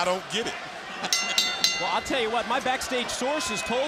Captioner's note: bell ringing